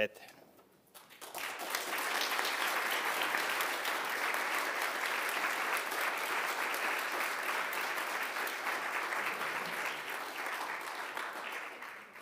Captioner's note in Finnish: aplodit